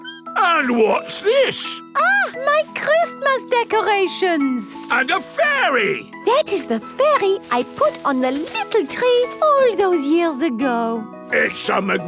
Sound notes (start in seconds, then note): none